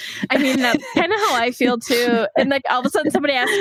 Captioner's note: laughs